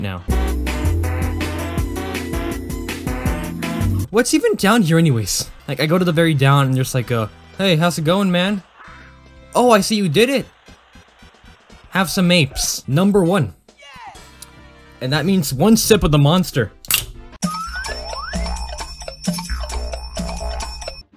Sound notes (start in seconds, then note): 16.8 can opens